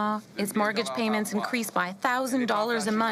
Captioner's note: speaking FRENCH